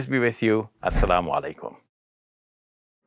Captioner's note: foreign language